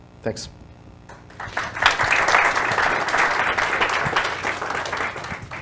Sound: audience applauding

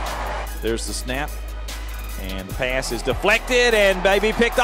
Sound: voiceover

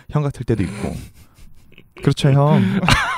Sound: laugh

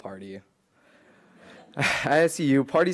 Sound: laughing

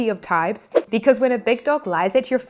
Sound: graphics whooshing

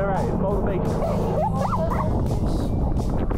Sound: laughing

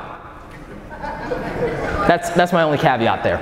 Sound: audience laughing

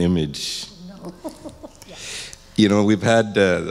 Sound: laughs

